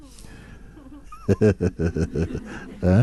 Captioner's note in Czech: smích